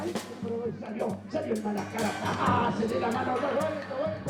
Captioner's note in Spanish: Audio hablado en español